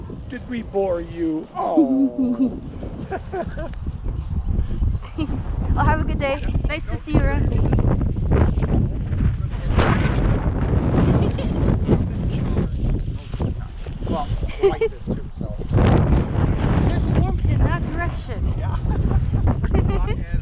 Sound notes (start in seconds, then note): 2.8 laughs; 7.1 wind; 11.6 laughs; 11.6 wind; 18.6 laughs